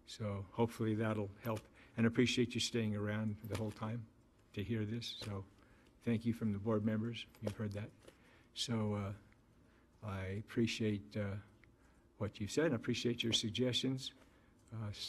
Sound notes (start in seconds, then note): none